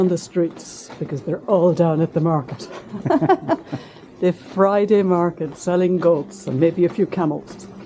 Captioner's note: laughter